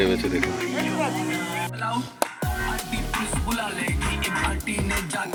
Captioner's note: applause